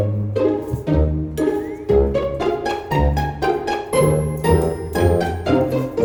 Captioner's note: cling Cling